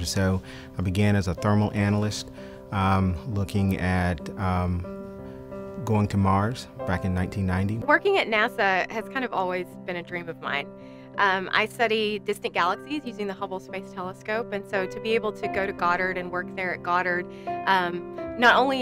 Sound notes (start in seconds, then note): none